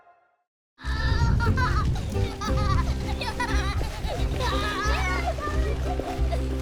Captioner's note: children laughing